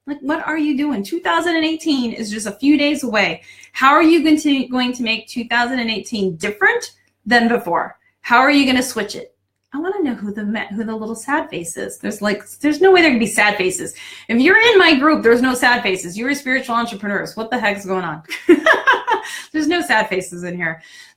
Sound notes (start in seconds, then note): 18.3 laughing